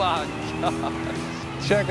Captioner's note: laughs